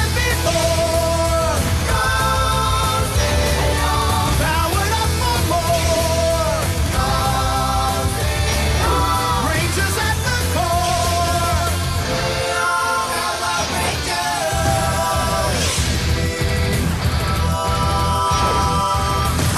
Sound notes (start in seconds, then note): none